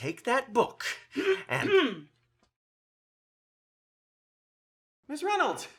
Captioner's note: woman off-screen clearing throat